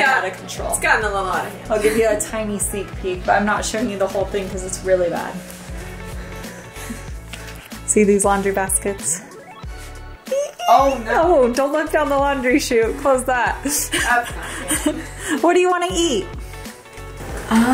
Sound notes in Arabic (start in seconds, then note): 13.7 يضحك